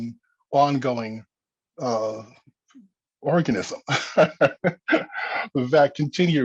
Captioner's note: laughs